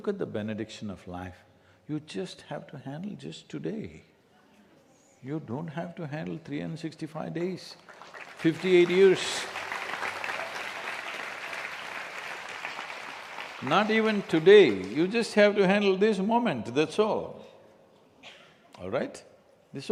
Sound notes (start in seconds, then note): 12.2 applause